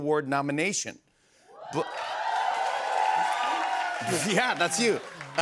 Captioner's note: cheers and applause